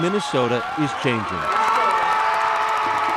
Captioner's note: cheers and applause